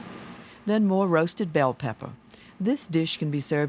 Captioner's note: voiceover